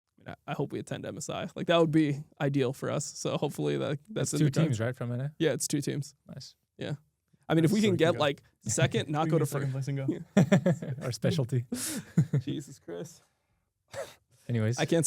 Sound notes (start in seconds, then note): 10.2 laughs